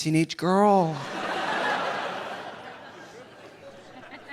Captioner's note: audience laughing